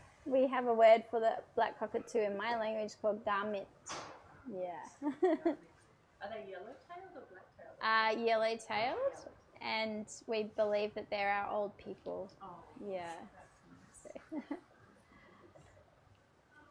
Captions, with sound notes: We have a word for the black cockatoo in my language, called (speaks in foreign language) Yeah. - Are they yellow tailed or black tailed? - Yellow tailed, and we believe that they're are old people. - Oh. That's nice. - Yeah.